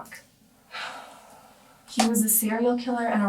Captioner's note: Hannah sighs